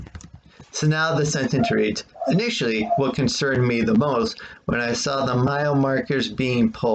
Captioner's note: tapping of keyboard; dog barking in background